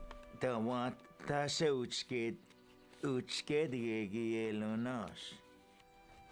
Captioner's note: Spoken Cherokee